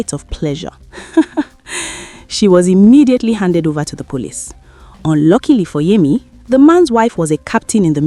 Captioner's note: laugh